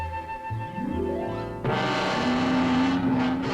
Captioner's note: growl